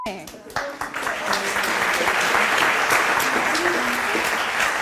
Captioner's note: audience applauds